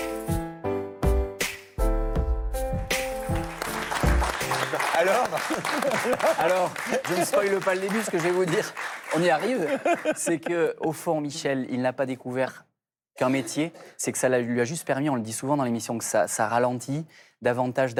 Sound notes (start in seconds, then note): 5.4 applause